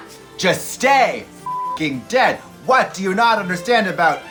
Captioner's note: beep